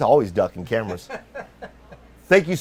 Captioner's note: laughs